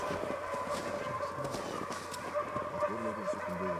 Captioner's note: dogs barking